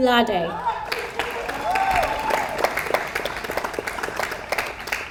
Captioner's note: audience applauds